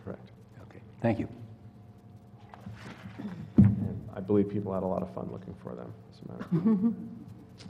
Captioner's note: laugh